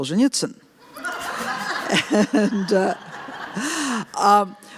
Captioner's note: laughter